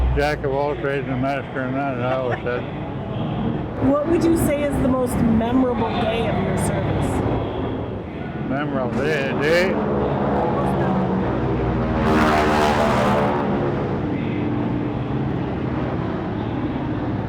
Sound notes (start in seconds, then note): 9.8 planes droning overhead